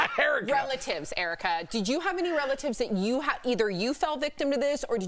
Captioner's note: laughter